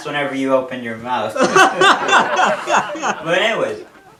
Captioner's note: laughing